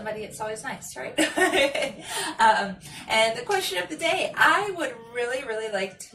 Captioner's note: laughs